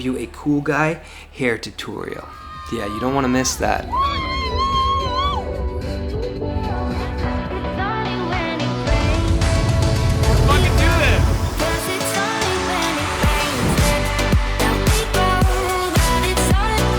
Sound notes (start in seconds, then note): 3.8 woman cheering; 11.8 upbeat pop music